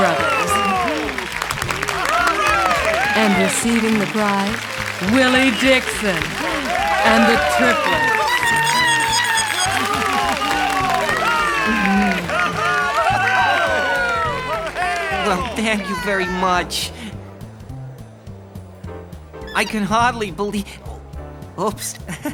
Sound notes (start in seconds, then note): 0.1 audience applauding; 7.8 mice chittering; 9.7 audience cheering and applauding; 19.4 statue squeaking